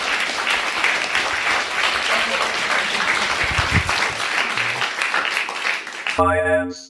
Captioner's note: crowd cheering